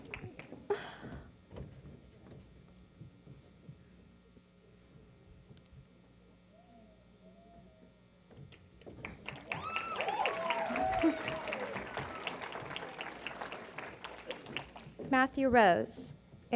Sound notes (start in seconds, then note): 0.0 laughter & Applause; 9.1 cheering & Applause